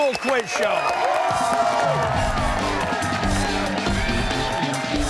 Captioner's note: cheers and applause